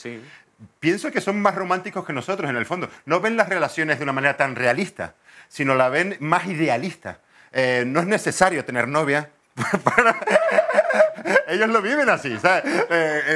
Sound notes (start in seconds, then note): 9.6 laughs